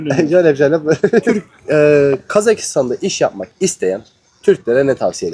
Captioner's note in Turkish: kahkaha